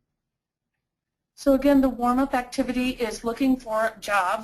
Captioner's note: voiceover